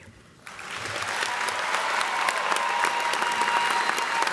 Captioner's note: cheers and applause